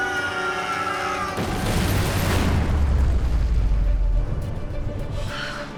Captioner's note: yells; explosion